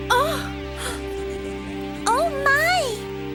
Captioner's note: gasps